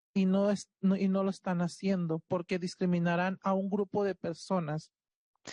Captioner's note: speaking Spanish